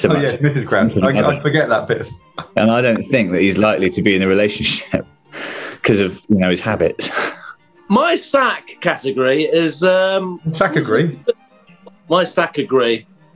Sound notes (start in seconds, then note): 6.9 sniggering